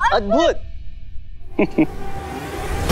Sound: chuckling; intense music

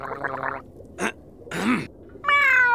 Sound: gargling; clearing throat; meowing

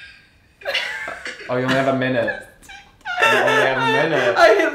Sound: laughing

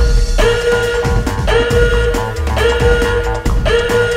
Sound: alarm

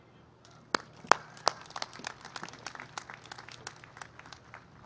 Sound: applause

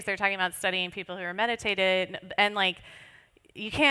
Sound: none

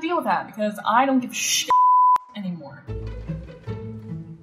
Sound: beep

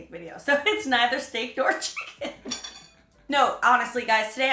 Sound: laughing

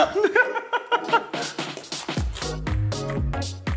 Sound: laughs; bright upbeat music

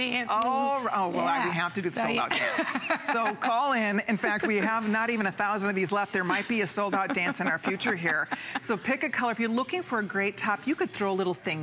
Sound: laughter

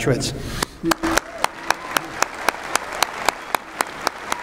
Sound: applause_

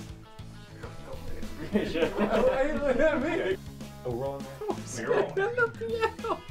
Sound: laughter

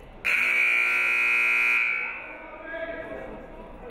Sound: buzzer buzzes

